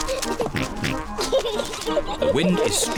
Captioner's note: giggles